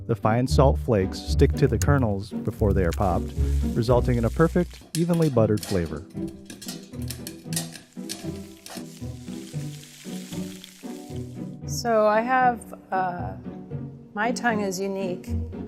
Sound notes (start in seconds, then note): 6.8 popping; 9.3 rustling